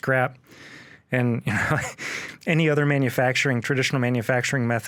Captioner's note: laughs